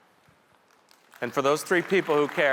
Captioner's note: audience members applauding